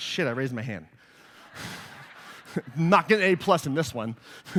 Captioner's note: laughter